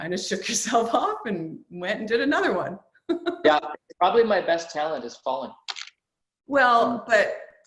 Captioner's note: laughs